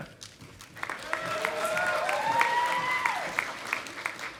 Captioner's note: audience applauding